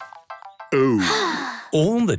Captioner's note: Peppa sighing